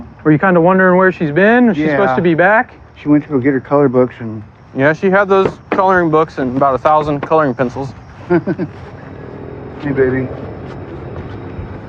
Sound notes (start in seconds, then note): 8.2 laughghteter